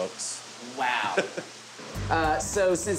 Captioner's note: laughing